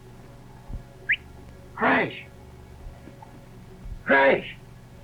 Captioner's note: whistles